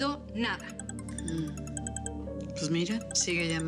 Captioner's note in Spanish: suena el celular